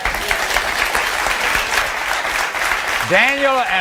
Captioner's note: audience applauding